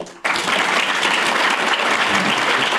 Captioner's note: applause